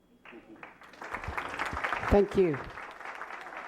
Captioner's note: applause